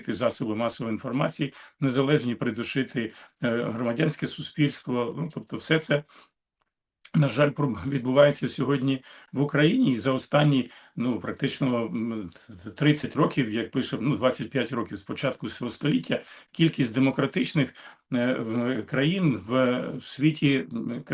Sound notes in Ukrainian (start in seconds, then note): 6.4 сопіння